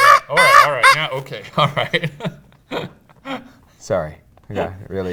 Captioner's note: mimics screams; laughs